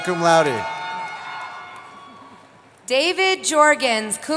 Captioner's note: cheering